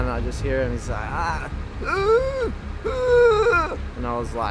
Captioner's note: groaning